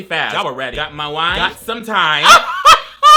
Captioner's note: laughs